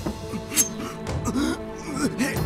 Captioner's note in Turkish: Bıçak sesi